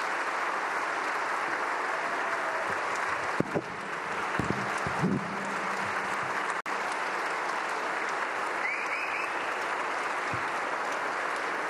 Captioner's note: applause